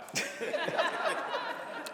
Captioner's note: laughter